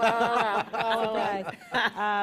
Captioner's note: laughter